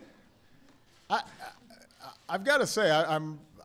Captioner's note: laughter